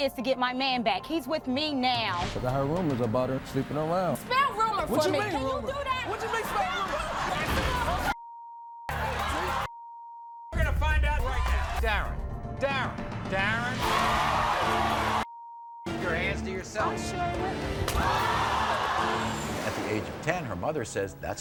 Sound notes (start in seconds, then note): 13.7 crowd roars; 17.3 crowd roars; 17.8 slapping